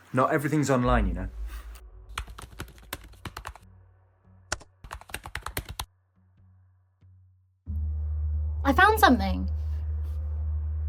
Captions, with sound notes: Not everything's online, you know. (keyboard clacking) - I found something!